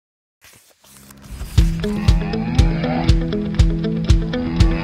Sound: cow mooing

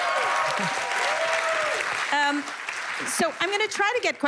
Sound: cheers and applause

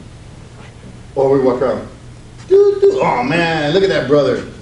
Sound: beeps

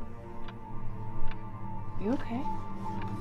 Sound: clock Ticking

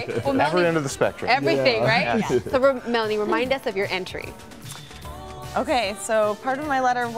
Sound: laughter

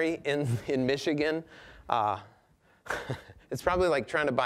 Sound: chuckling

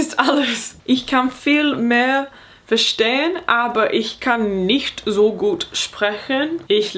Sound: speaking in foreign language

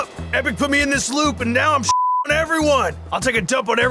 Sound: beep

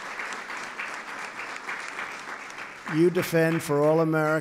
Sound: applause

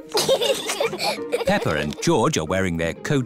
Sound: both giggle

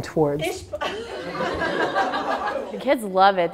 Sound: class laughing

